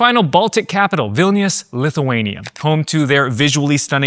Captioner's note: camera clicking